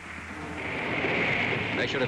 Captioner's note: waves crashing